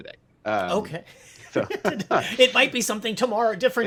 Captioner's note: laughs